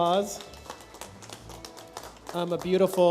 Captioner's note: light applause